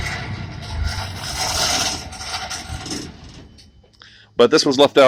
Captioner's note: engine rattles and dies